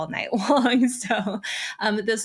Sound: chuckles

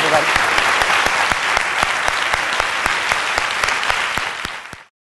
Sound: applause

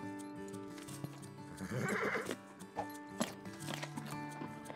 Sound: horse whinnies

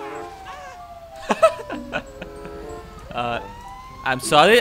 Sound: laughs

